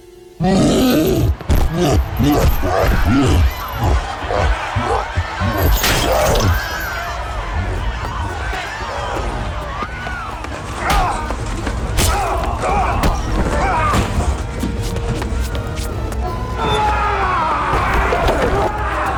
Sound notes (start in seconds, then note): 0.4 growls, grunting; 3.2 crowd screams; 5.4 suspenseful music playing; 10.6 grunting; 16.7 shouts